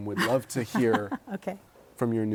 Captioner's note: laughter